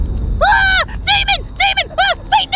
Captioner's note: dramatic music; Rudy yelling